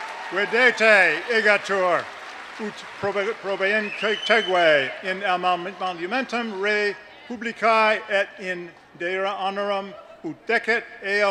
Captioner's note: latin speech